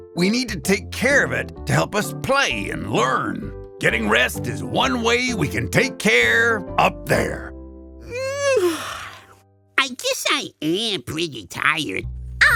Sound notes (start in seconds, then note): 8.0 yawns